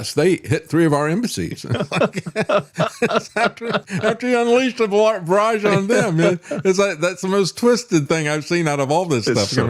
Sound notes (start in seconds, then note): 1.4 laughing